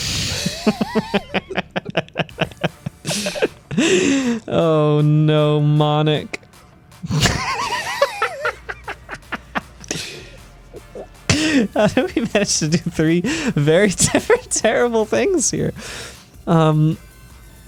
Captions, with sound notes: (both laughing) Oh no, Monic. (laughing) We managed to do three very different terrible things here.